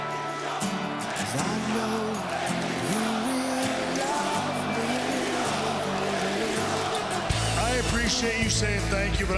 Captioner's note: crowd cheering